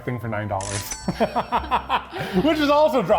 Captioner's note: laugh